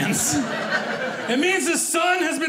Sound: audience laughing

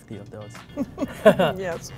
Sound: laughing

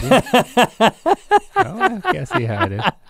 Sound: laughs

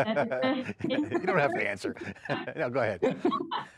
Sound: laughs

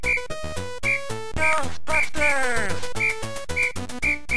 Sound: synth Voice

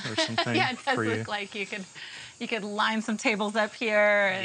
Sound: laughs

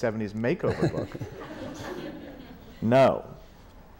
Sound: laughter

